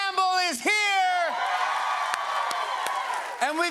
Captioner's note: cheers and applause